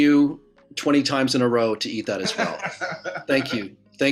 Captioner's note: laughing